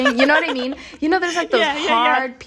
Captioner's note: laughter